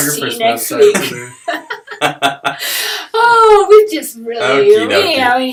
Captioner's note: laughter